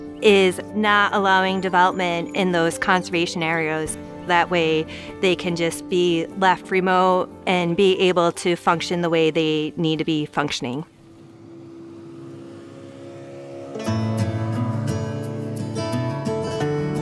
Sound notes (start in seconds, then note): 10.3 boat motor whirring; 14.0 gentle music